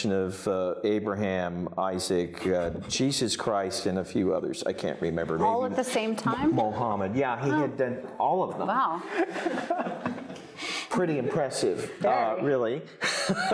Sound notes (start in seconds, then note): 9.0 audience laughing